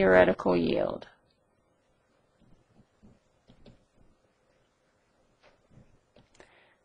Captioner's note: silence